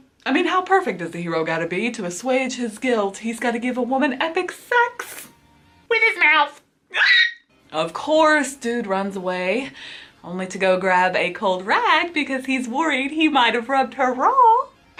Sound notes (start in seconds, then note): 6.9 squeals